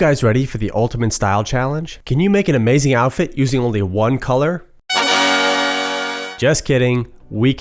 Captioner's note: sound effect